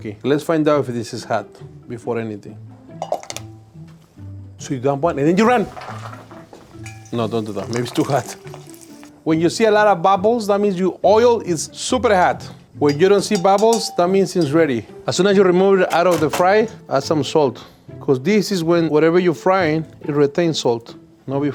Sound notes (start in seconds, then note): 3.3 oil pops